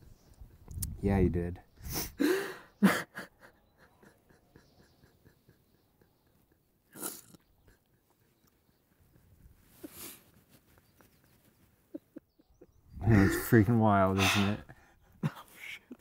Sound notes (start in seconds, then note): 6.8 sobs more